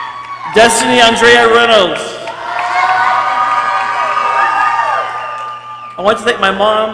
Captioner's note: people cheering